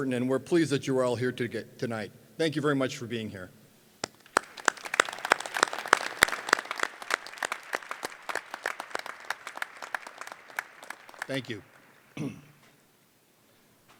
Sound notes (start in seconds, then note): 4.0 applause